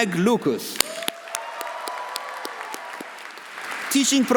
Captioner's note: audience applauding; audience cheering